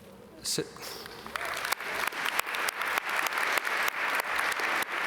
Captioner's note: audience applaud